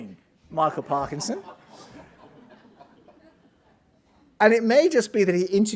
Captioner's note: audience laughing